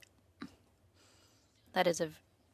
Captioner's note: speaking French